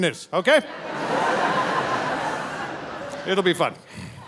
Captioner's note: audience laughing